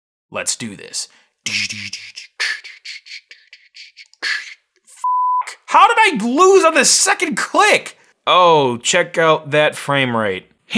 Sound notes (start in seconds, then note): 1.4 beatbox sounds; 5.0 beep